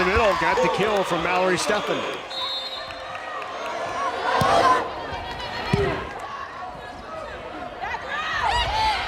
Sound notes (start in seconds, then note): 4.0 players yelling